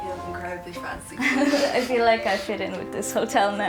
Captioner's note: both chuckling